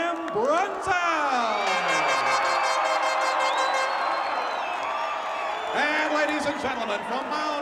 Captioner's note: applause